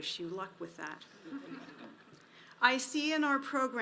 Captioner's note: audience laughs